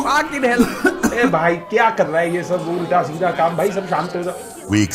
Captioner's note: rants in foreign language